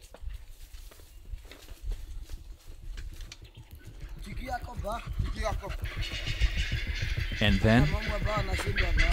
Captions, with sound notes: (animal chittering) And then chaos.